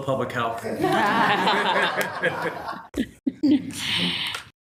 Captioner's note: everyone laughing